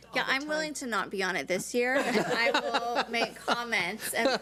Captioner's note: board members laugh